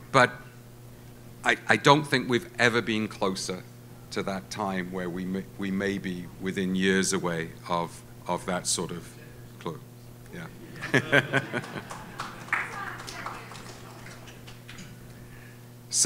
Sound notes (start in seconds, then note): 10.6 laughs; 12.5 audience claps